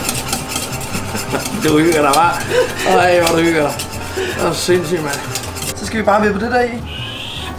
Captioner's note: both laughing